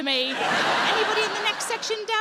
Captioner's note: audience laughs